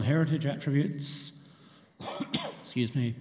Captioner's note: coughs